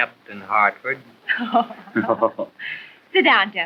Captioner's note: laughing